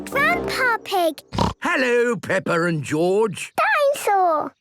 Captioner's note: snorts